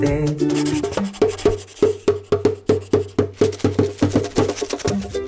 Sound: pencil writing; drum beat plays

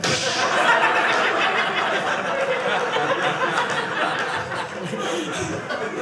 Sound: audience laughing

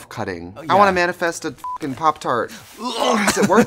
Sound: beep; grunting

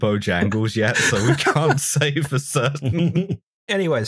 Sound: laughter

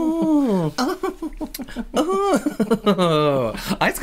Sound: more Ooooohing

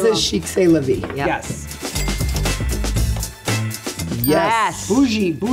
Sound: cash register dings

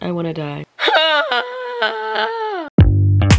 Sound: woman groans; upbeat music playing

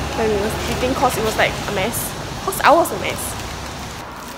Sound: rain

